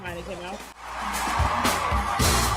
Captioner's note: crowd cheering